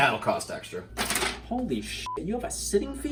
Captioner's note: beep